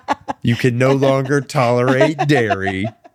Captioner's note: laughing